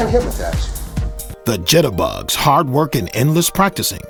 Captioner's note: voiceover